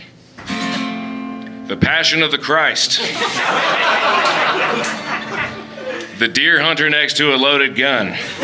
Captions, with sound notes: The Passion of the Christ [Audience Laughing] The "Deer Hunter" next to a loaded gun